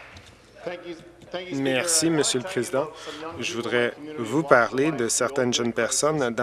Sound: some Applause

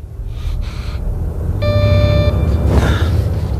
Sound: doorbell ringing

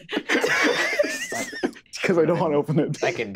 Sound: group laughing

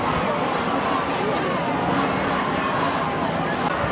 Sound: crowd chants

